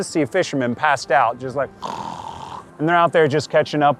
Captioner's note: snoring sound